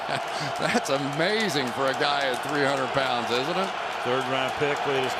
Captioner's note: laughs